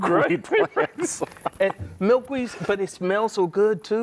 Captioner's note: both laugh